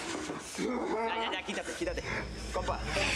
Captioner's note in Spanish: quejidos